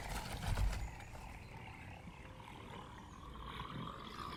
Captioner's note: rattling